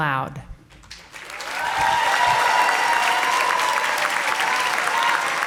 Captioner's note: audience applauding